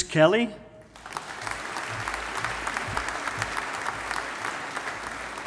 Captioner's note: audience applauding